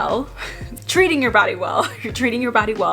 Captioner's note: laughing